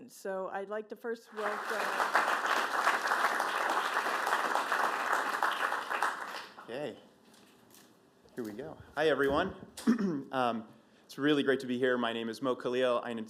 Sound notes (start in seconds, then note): 1.3 applause